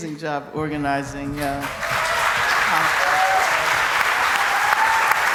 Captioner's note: cheering and applause